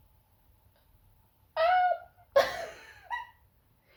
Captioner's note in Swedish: högtonat ljus och kort skratt